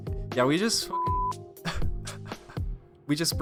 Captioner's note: laughs